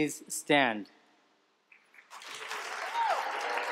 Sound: applause

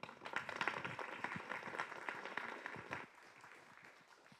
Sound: audience applause

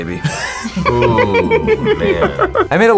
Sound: both laugh

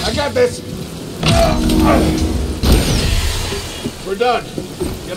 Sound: grunts

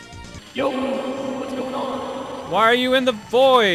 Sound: echo

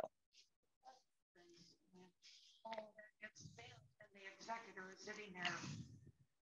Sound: faintly speaking

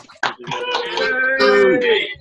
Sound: cheering

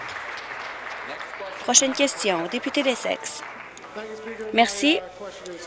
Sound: applause

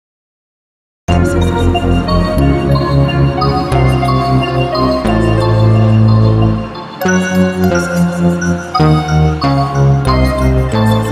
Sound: sound of mystery

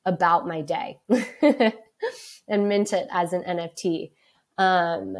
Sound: laughs

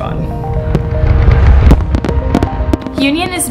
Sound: fireworks popping

